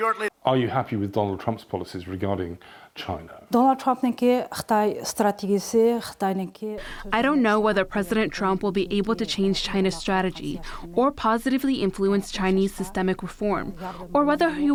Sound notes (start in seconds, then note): 4.5 through translator